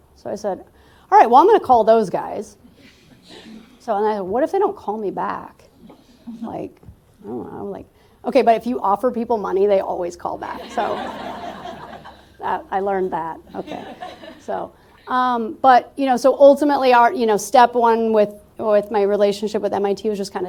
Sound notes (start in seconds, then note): 10.6 laughter